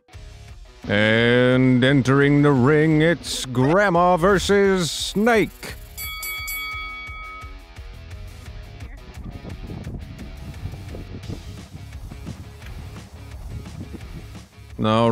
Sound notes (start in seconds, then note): 0.1 rock music; 5.8 bell dinging; 9.2 wind howling; 12.2 rock music